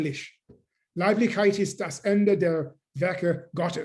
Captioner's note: german; speaking german